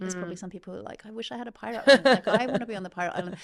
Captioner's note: laughing